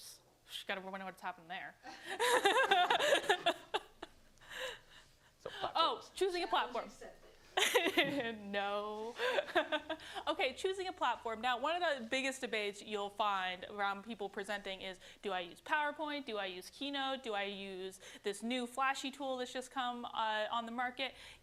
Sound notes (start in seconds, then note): 1.9 laughter